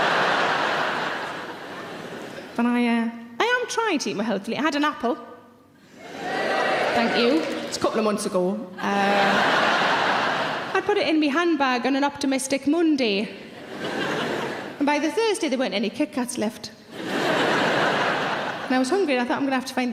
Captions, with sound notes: (audience laughs) And I am trying eating, eat more healthily. I had an apple. (audience cheers) Thank you, it's a couple of months ago. (audience laughs) I put it in me handbag on an optimistic Monday. And by the Thursday there weren't any KitKats left. (audience laughs) And I was hungry and I thought,